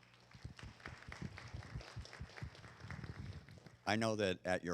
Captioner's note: audience clapping